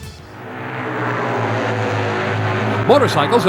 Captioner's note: engines roar